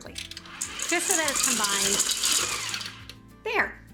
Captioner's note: stand mixer whirring